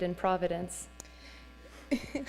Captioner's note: laughter